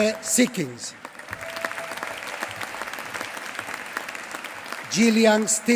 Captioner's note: applause